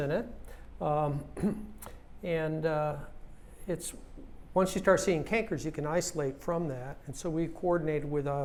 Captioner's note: cough